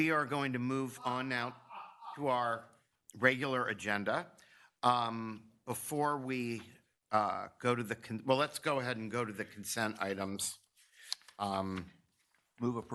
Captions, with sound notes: We are going to move on now-- [laughs in background] --to our regular agenda. Before we go to the-- well, let's go ahead and go to the consent items.